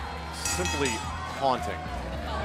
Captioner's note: crowd cheering; bell ringing